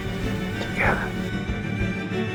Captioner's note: voiceover; whispering